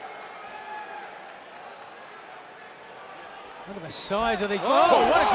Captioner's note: cheers and applause